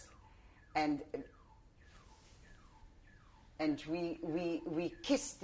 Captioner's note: pauses for 3 seconds